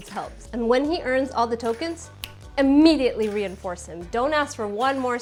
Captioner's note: snap